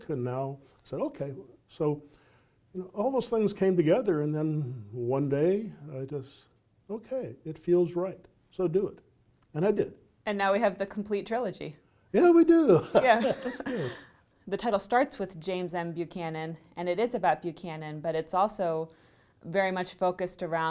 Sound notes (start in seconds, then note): 12.6 laughs